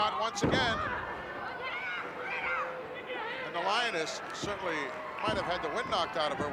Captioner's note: applause